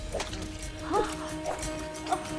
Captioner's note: gasps